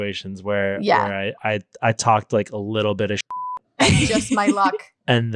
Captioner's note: beep